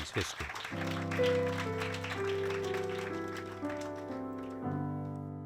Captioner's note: audience claps; soft music